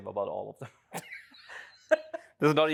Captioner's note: laughs